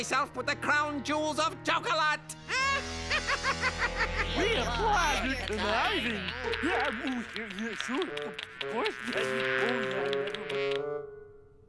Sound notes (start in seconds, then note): 2.5 evil laugh; 7.0 mumbles appreciatively